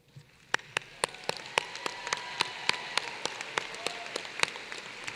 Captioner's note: applause